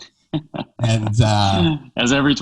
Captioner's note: laughing